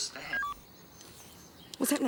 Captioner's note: recorder beeps